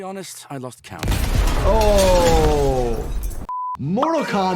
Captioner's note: explosion booming